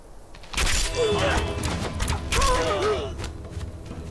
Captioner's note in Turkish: Ok Sesleri